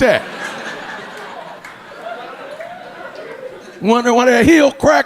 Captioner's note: audience laughing